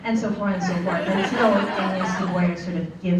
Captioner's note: laughter